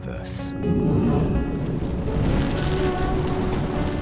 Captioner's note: flames roaring